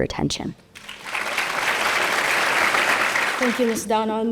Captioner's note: audience applauding